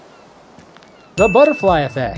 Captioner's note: ding